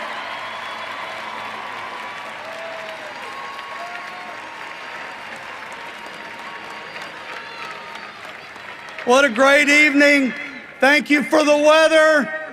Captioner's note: cheering and applause